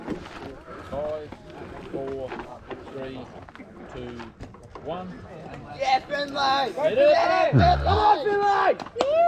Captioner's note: cheering